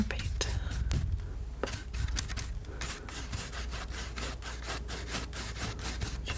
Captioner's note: sniffing